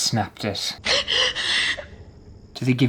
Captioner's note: crying